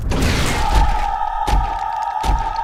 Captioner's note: screams